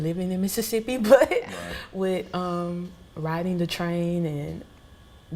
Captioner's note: laughs